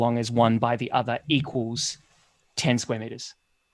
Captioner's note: none